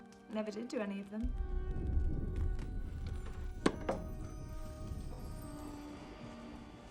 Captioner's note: thundering